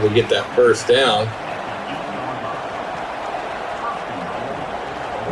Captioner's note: crowd Noises